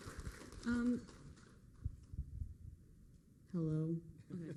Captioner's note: applause